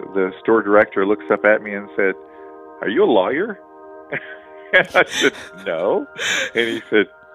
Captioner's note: laughs